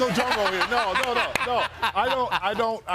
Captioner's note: laughter